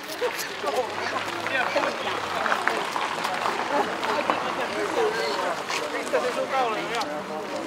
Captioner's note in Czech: Potlesk